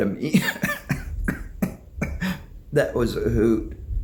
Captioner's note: coughs